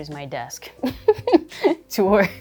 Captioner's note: chuckling